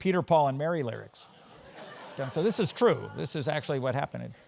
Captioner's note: laugh